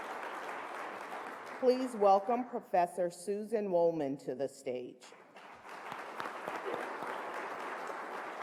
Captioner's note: applause